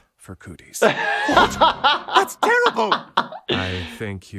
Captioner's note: laughing